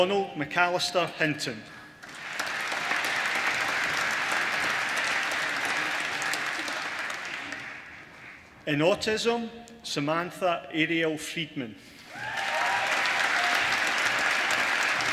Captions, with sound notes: Donald McAllister Hinton (APPLAUSE) in Autism Samantha Ariel Friedman (APPLAUSE)